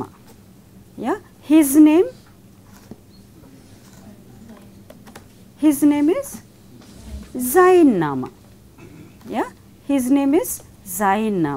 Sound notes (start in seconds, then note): 6.8 buzz